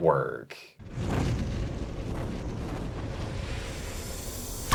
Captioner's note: hawk whooshing